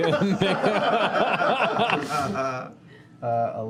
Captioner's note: laughter